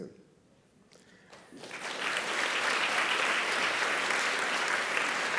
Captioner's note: audience applauding